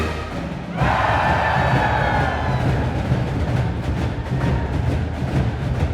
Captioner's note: crowd cheering